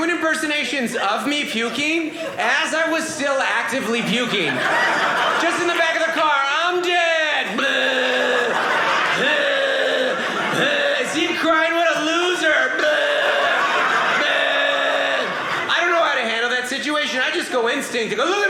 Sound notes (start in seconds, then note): 4.3 audience laughing; 7.5 throwing up sounds; 9.5 audience laughing; 12.8 throwing up sounds; 14.4 audience laughing